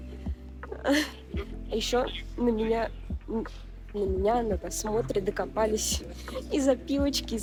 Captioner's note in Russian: вздох